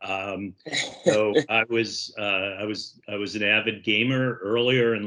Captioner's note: laughs